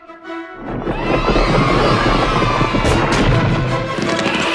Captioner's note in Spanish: vítores